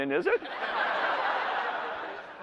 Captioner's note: laughter